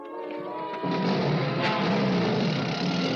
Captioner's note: engine starts